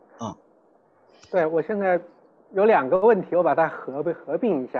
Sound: Mandarin

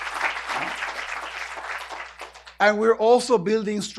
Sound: applause

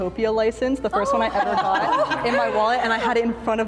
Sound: all laughing

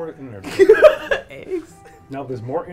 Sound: laughs

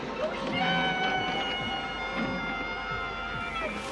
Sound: yelling

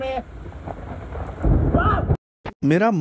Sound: thunder thunder

